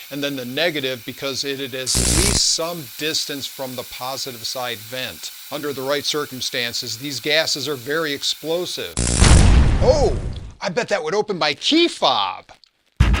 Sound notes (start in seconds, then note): 9.0 explosion!